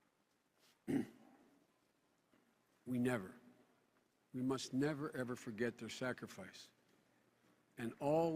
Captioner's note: clears throat, stifles sob